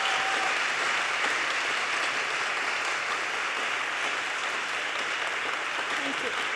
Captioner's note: audience cheers and applause